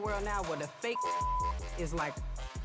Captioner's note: beep